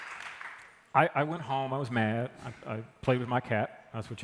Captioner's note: applause